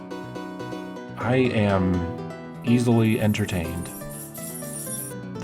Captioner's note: sound of jingling keys